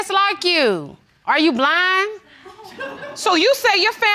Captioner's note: laughter